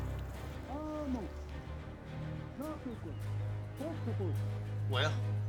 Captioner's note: speaks paiute language